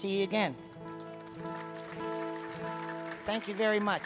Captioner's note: audience clapping